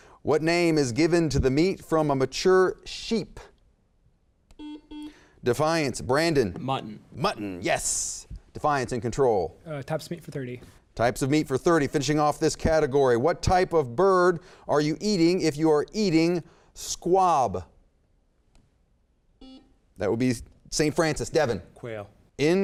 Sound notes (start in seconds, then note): 4.6 beep; 19.4 beep